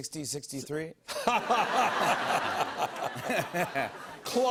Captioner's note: laughter